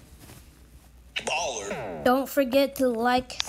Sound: boom

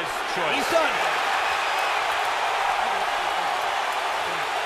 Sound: cheers and applause

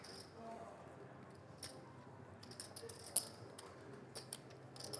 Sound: rattling poker chips

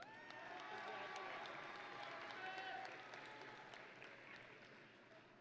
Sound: audience and graduates cheering

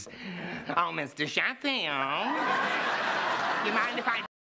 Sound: imitating Fran's voice

